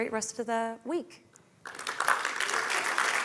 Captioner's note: applause